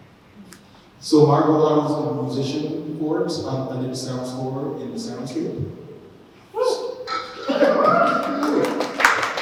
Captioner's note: applause